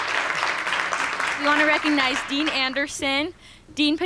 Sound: applause

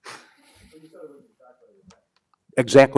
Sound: man speaks softly

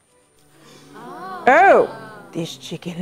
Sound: crowd ahhs

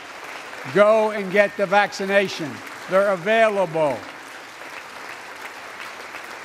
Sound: applause

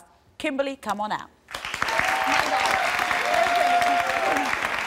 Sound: applause

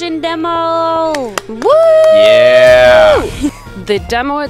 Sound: alien clapping

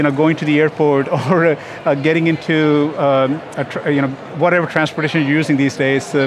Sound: chuckles

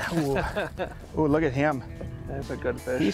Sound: laughter

